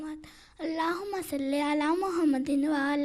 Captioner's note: Arabic